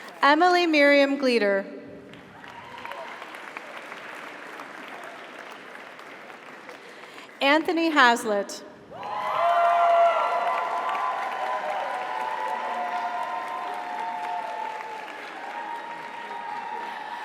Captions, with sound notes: Emily Miriam Glider. (audience applauds) (audience cheers) Anthony Haslett. (audience applauds) (audience cheers)